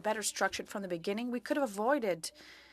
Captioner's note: speaking French